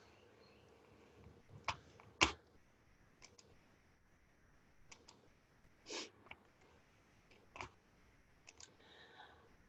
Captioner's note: silence during transition